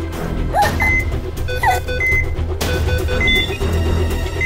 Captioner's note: Choking; Beeping sound